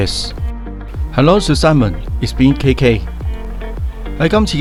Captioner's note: German